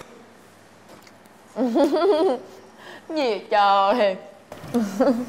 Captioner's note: laugh